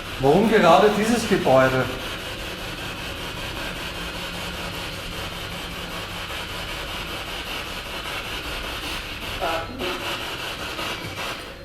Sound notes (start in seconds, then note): 2.9 radio noise from the spirit box